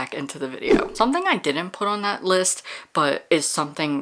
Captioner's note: whoosh